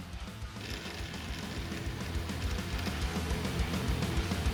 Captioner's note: machine whirring; upbeat rock music